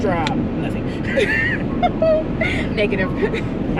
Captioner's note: both laugh